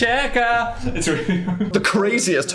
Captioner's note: Phil laughs